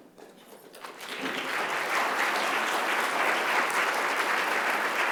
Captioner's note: audience applauding